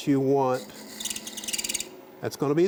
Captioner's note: wood marker screeching